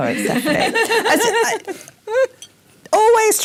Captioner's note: laugh